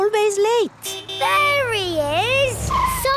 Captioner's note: honking